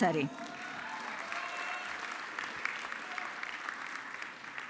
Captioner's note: audience clapping